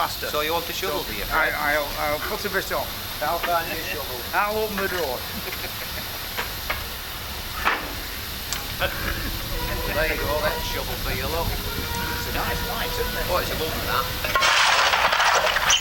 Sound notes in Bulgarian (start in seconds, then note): 14.3 Аплодисменти